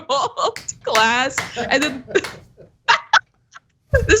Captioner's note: laugh